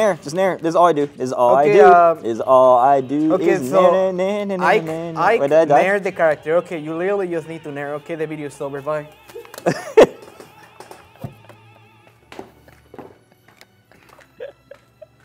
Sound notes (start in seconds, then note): 9.5 laughter